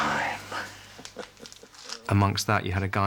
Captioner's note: chuckles